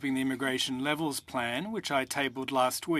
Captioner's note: speaking french